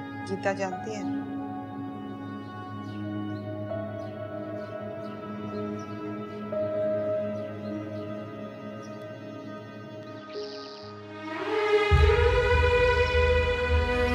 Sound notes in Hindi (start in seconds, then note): none